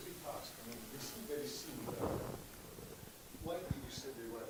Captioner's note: microphone echoing loudly